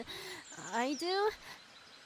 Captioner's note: nervous laugh